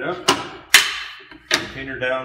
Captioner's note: metal clicking